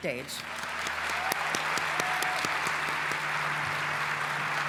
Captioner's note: applause